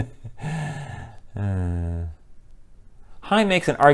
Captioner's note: laughter; sigh